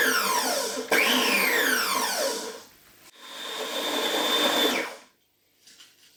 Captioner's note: motor noises